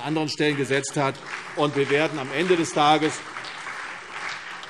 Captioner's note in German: Beifall CDU und BÜNDNIS 90/DIE GRÜNEN